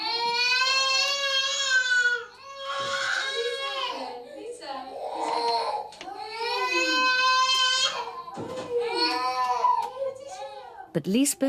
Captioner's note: child wailing